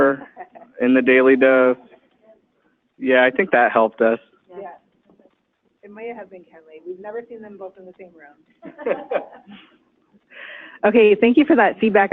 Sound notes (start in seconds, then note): 8.6 laughing